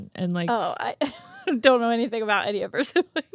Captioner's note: laughs